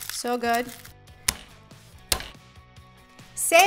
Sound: hand thumping

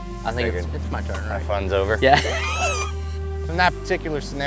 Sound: laughing

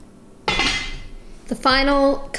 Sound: clanking

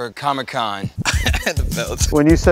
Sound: laugh

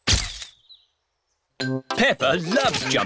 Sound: camera clicks

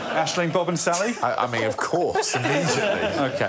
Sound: laughter

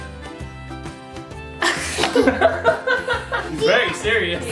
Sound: family laughs

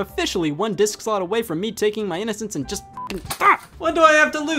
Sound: beep

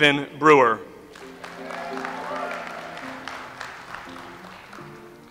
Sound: audience applauds

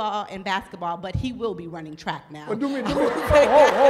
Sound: laughter

